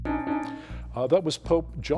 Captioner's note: bell dings